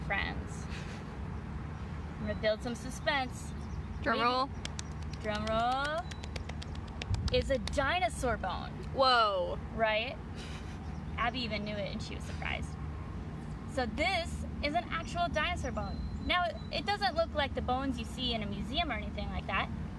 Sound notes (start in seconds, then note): 4.6 hands clapping in background